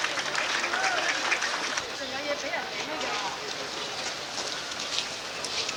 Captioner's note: crowd cheering